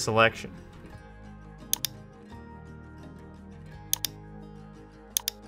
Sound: mouse clicking

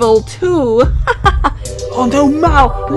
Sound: laugh

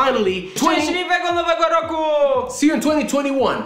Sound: speaking in Polish

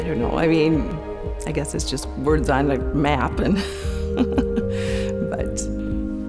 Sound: chuckles

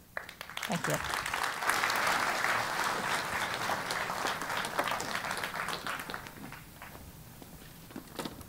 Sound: applause

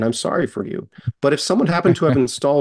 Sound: chuckles

